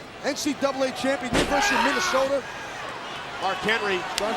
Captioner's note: wrestler shouting